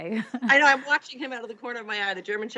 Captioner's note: laughs